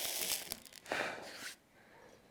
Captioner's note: sizzling; blowing